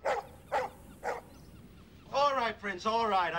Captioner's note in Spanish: perro ladrando